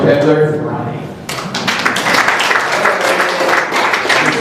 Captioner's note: applause